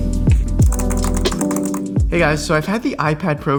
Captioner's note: keyboards clacking